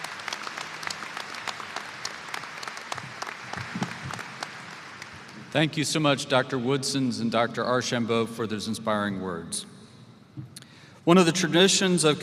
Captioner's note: applause